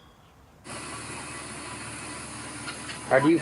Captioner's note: ventilator humming